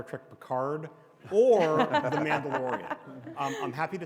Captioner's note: audience and panelists laugh